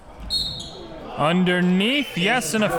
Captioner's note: whistle blows